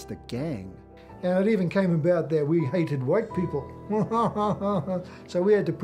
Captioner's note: laughs wryly